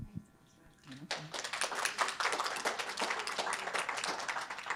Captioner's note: audience applauding